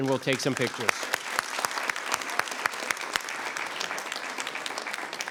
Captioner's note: members clapping